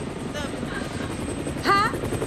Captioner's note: helicopter hovering